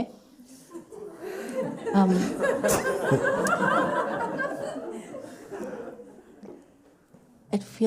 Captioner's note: laughter